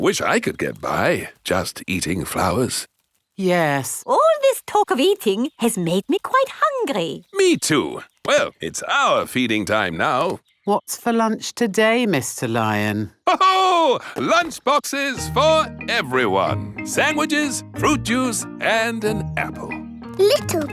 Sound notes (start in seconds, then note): 13.2 laughs